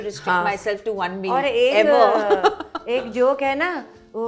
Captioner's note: chuckles